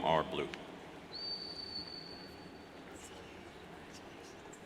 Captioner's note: whistles